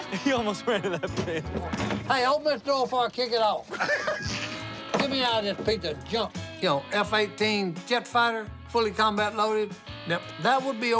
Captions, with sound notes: You almost ran into that thing. Hey, open this door before I kick it out. [laughing] Get me out of this piece of junk. You know, F-18 jet fighter, fully combat loaded, now that would be OK.